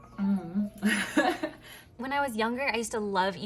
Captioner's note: laughs